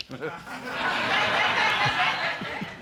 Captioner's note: audience laughing